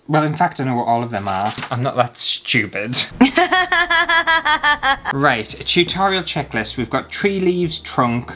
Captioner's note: laughter